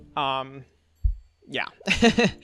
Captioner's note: laughs